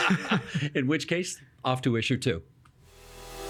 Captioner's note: laughing